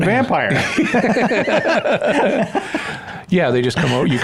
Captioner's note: laughing